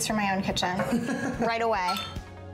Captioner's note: laughs